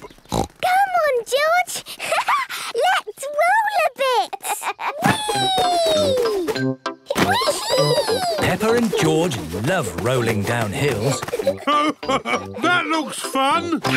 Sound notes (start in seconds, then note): 0.2 snorts; 4.2 laughs